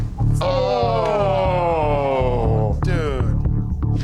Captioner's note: men groaning